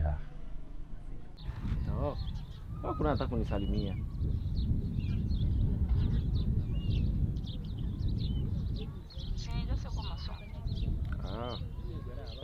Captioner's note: speaking in Swahili